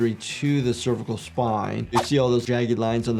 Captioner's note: graphics whooshing